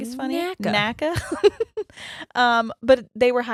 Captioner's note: laughs